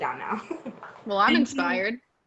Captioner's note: laughs